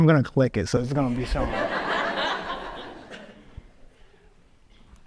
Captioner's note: audience laughs